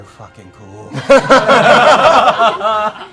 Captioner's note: laughter